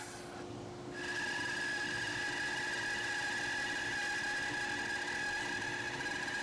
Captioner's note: bandsaw continues quietly whining